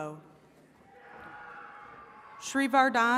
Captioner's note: attendees cheering